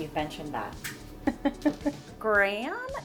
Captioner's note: laughing